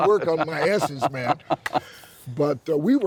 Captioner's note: laughs